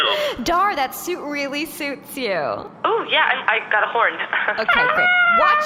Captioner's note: toots